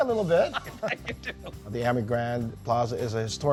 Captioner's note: laughs